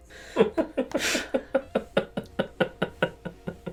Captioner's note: laughter